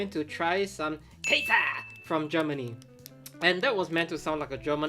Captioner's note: graphic chimes